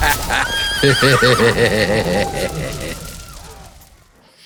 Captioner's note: laughs; horse neighs